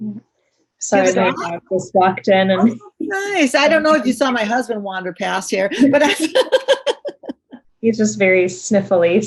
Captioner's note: laughter